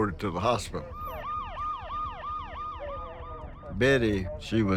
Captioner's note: ambulance siren